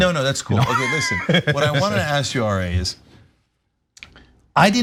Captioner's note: laugh